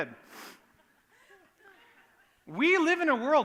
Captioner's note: laughter